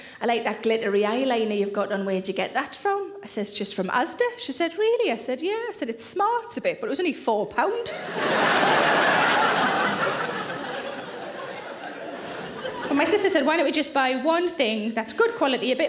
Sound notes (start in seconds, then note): 7.9 audience laughing